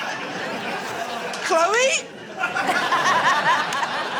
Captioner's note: laughter